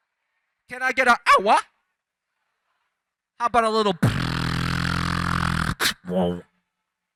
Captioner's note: beatboxer performs